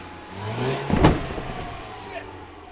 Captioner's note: thump